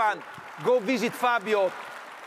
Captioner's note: audience applauds